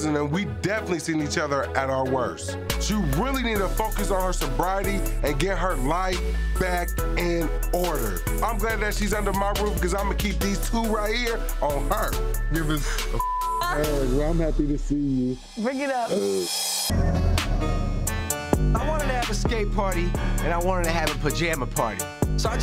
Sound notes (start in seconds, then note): 13.2 beep; 16.4 intense music